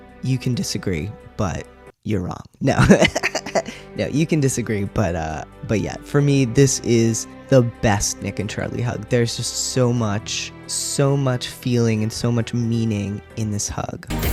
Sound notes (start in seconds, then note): 2.8 laughter